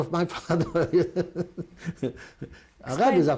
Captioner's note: laughs